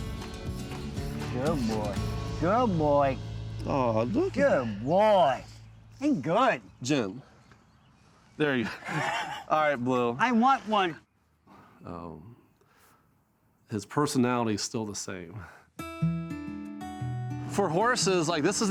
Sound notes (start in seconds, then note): 8.5 laughs